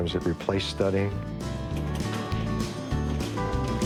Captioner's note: arcade ambience